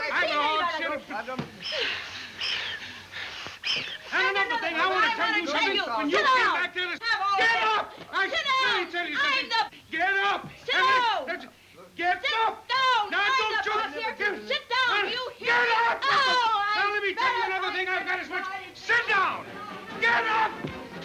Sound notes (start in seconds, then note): 1.5 all panting and wheezing